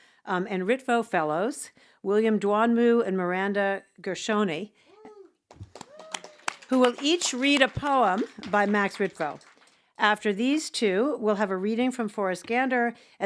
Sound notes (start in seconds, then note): 5.5 everyone applauds; 5.6 attendees cheer